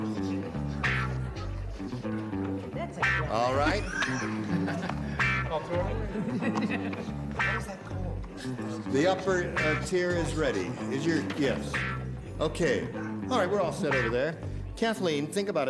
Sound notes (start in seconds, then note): 4.2 laughter